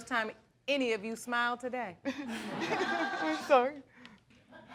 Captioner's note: all laughing